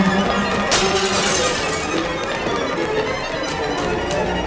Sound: glass breaking

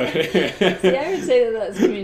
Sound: both laugh

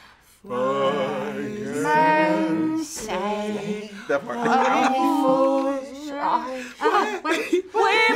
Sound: laughs

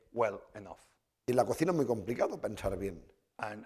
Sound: speaking spanish

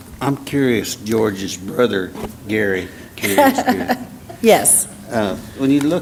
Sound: laugh

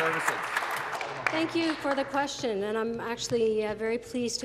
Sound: applause

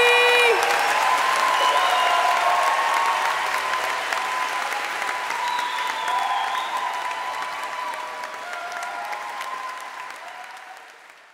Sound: audience applauds

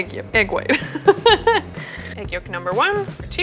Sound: laughing

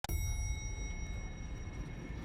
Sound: elevator dings

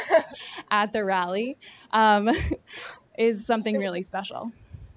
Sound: chuckles

